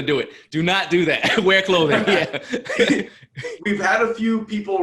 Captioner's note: laughs